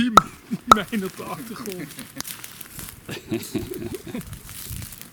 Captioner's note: leaves crunching